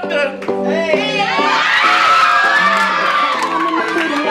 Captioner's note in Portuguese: Gritos